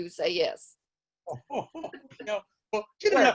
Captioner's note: laughs